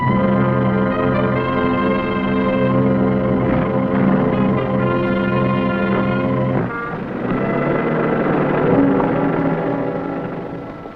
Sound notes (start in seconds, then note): 0.1 music intensifying; 7.2 engine rumbling